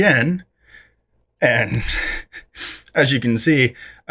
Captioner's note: laughs